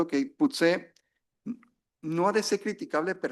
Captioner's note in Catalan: s'aclareix la gola